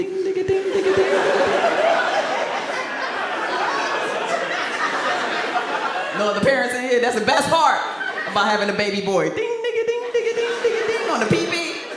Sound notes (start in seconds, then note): 2.2 audience laughs